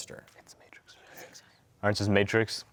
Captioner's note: whispering